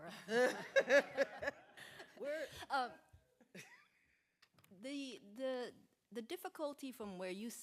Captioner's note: laughter